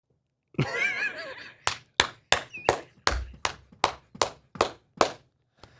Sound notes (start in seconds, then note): 0.5 laughs; 1.6 hand clapping